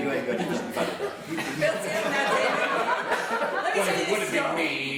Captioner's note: laughing